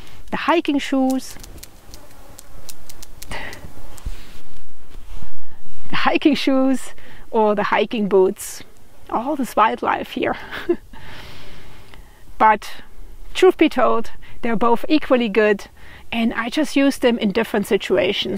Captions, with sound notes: the hiking shoes ... [Sound of cricket] [Laughs] The hiking shoes or the hiking boots ... all this wildlife here [laughs] ... but ... truth be told, they're both equally good, and I just use them in different situations.